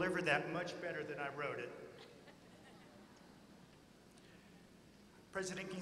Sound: laughter

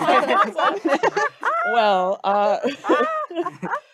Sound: group laughing

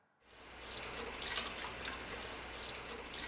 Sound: faucet running

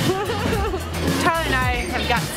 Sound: laughing

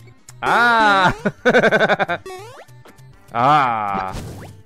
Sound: laughs

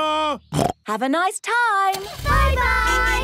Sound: snorts

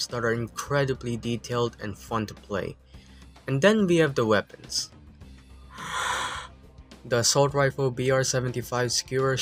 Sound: exhale

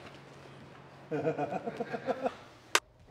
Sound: man laughing

